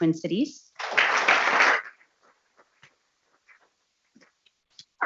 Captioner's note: people clapping